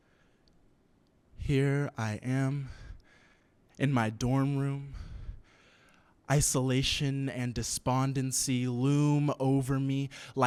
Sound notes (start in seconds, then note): none